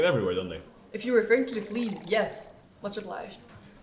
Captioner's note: water pouring